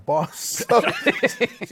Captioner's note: laughter